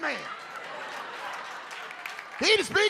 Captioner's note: audience laughs